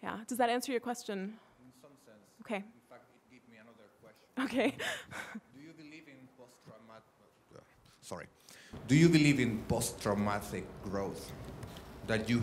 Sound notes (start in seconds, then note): 4.4 laughs